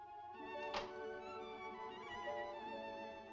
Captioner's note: balcony window opens